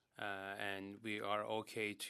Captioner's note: speaking French